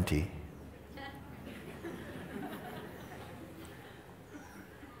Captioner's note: Lachen